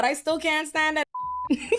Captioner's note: beep